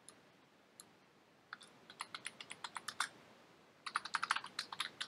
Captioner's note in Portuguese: typing